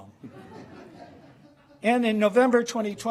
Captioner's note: laughter